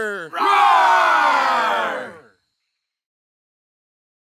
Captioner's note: man roaring; crowd roaring